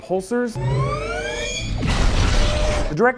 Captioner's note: high whining charge followed by a deep "pew"